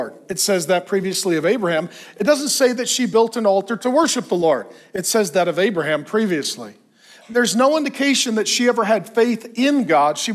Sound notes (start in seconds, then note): none